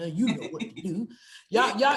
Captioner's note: laughter